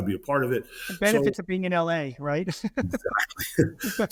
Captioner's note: chuckles